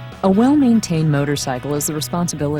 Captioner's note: voiceover